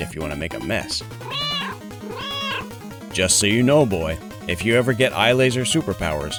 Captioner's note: meow, meow